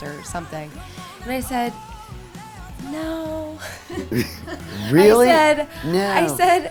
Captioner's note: laughing